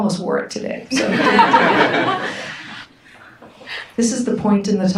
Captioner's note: audience laughs